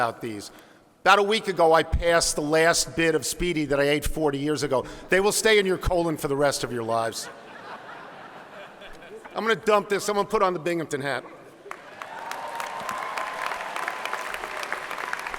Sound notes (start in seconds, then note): 7.2 laughing; 11.6 clapping